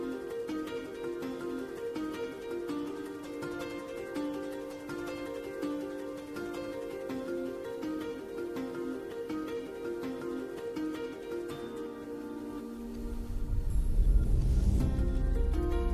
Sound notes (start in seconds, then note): none